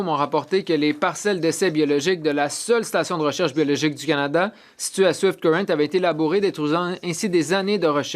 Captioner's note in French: voix de l'interprète